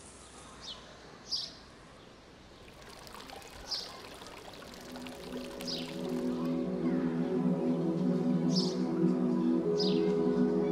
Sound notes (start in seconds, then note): 0.8 birds tweeting; 2.6 water pouring